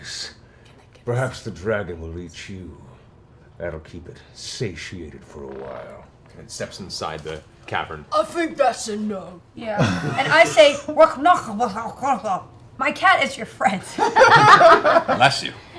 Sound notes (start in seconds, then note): 8.3 Grog voice; 11.2 speaks gibberish